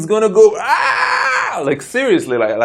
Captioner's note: screaming